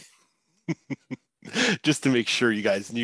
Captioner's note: laughs